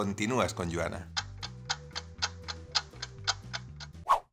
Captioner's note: clock ticking sound